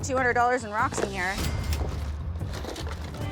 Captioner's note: cash register dings